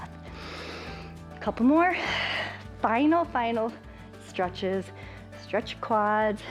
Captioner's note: inhales; exhales